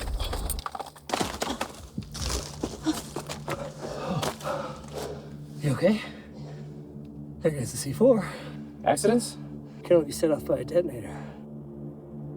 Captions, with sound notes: [Heavy breathing] You okay? I think that's the c4. Accident? Can only be set off by a detonator.